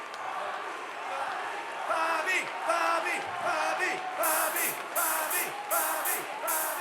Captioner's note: chanting